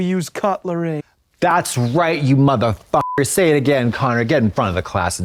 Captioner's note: beep